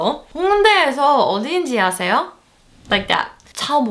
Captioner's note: speaking Foreign Language